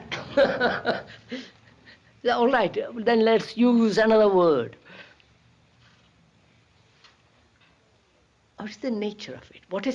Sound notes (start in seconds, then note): 0.1 K laughs